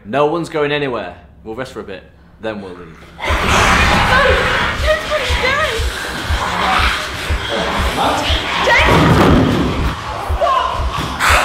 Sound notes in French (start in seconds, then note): 5.1 James rugit et bondit